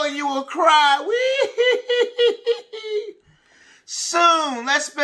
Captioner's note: cries